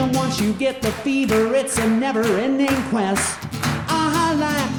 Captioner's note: audience clapping